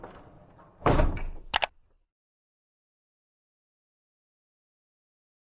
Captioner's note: mouse clicking